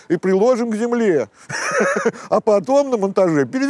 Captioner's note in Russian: смеется